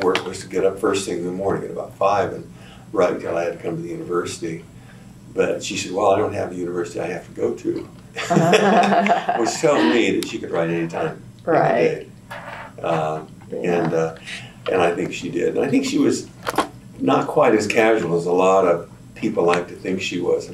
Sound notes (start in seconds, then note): 8.2 laughter